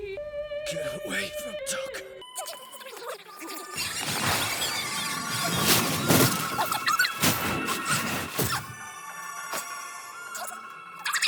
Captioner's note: evil whispering